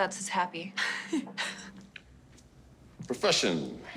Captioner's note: both laughing